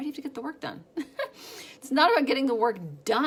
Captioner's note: laughs